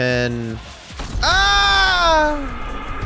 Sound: screams

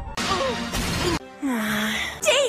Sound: sigh

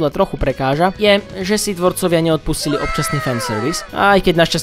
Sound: anime ‘wow’ sound effect

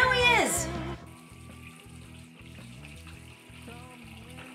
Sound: water running

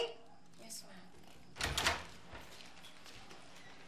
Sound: door closes

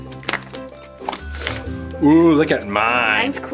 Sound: lid popping

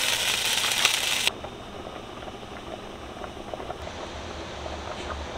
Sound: ~Water Noises ASMR~

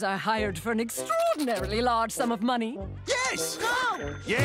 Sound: none

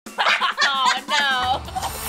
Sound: laughing

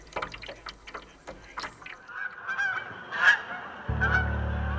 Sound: canoe being dragged; crane song overhead; gentle music

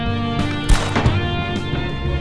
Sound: gunshot

